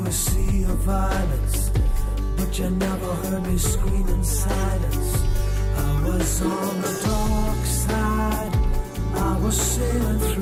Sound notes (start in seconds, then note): none